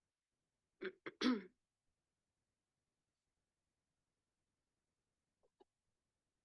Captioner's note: clears throat